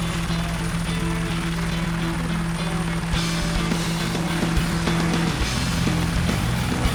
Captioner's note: helicopter engine whirring; upbeat music